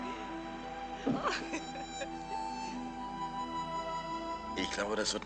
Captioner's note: distant laughing and chattering